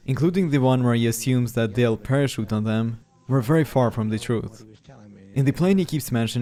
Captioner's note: none